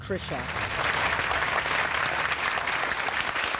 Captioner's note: applause